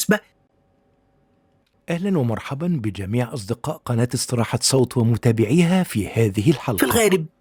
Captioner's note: arabic VO